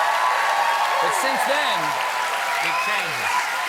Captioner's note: cheers and applause